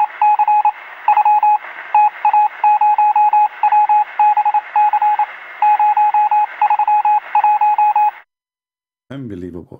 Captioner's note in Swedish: Applåder